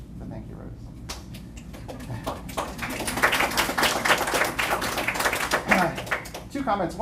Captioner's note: applause